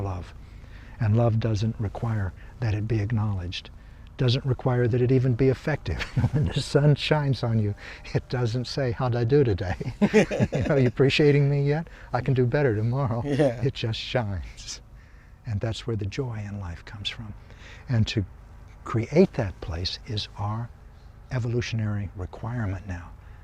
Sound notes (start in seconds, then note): 6.0 laughing; 9.7 both laugh